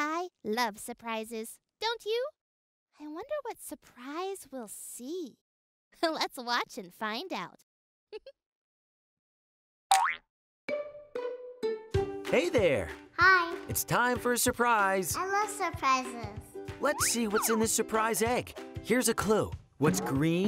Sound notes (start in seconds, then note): 8.1 giggle; 9.9 cartoon pop